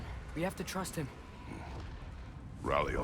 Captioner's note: grunt